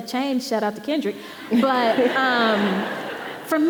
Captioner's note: audience laughing